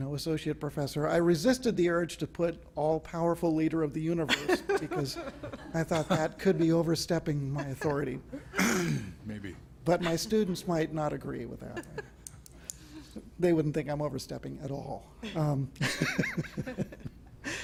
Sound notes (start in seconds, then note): 7.4 laughter; 15.8 laughter